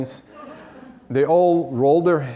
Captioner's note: audience laughs